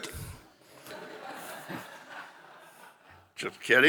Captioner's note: audience laughing